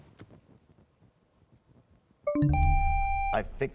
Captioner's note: bell chimes, time expires; buzzer sound